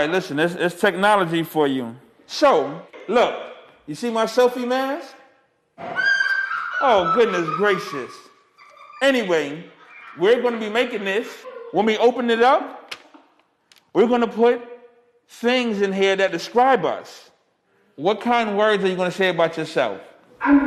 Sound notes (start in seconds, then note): 6.2 laughter